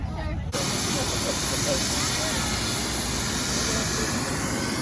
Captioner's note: helicopter buzzing